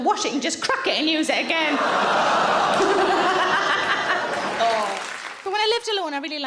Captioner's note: audience laughing loudly